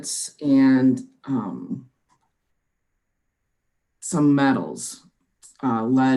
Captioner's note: clicking